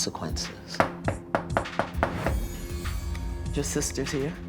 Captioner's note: knock on door